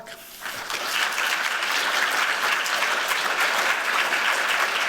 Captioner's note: applause